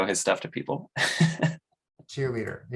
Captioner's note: chuckles